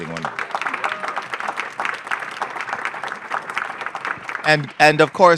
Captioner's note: applause